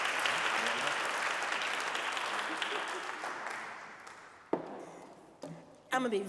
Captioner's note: audience applauding